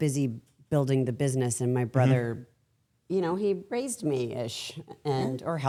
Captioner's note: laughs